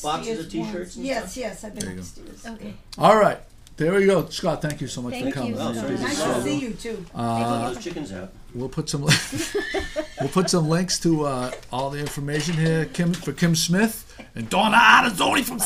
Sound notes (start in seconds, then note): 0.0 voiceover; 5.7 voiceover; 9.1 laughing; 10.4 voiceover